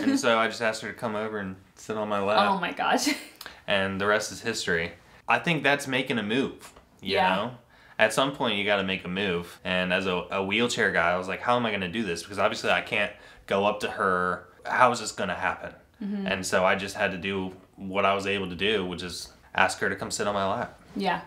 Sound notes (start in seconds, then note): 3.0 laughs